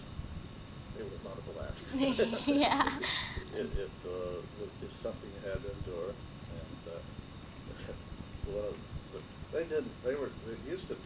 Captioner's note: laughter